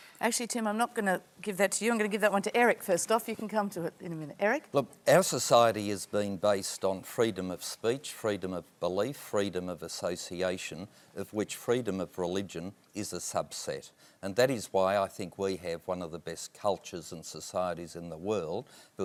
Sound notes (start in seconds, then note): none